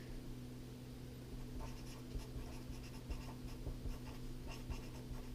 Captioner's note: pen scratching